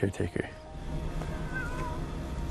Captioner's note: piano playing; rico meows